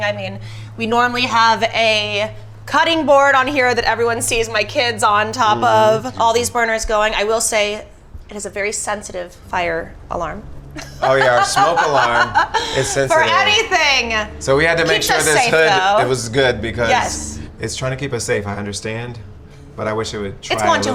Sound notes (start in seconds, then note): 10.7 laughs